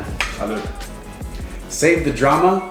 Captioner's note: clinks